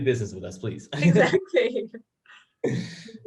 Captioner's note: chuckles